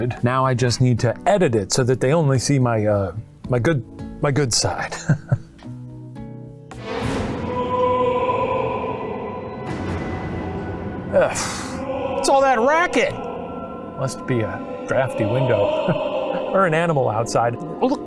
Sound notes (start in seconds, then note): 4.8 laughs; 6.8 eerie theatrical music; 6.8 ghost wailing